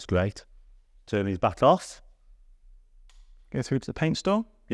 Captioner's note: switch clicks